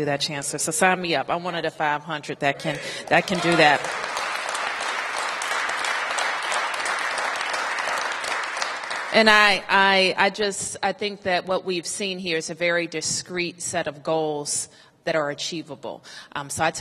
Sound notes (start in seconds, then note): 7.6 applause